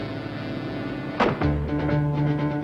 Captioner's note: suspenseful music; door thuds close